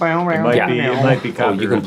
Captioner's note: imitating guitar